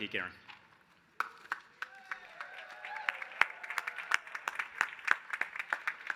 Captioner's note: applause